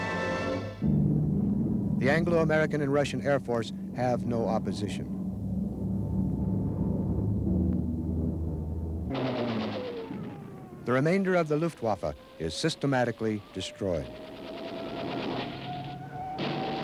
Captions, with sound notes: (planes rumble) The Anglo American and Russian air force have no opposition. (plane buzzes) (plane sputters) (plane booms) The remainder of the Luftwaffe is systematically destroyed. (gun rattles)